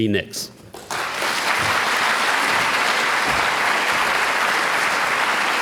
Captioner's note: applause